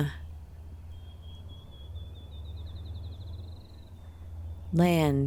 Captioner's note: birds chirping